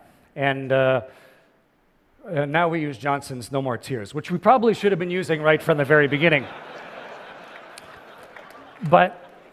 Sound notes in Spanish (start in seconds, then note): 5.5 Risas